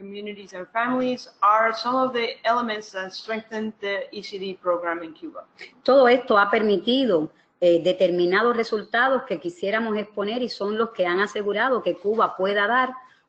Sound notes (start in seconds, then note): 8.1 speaking another language